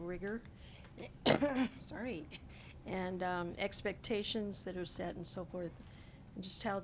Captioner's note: coughs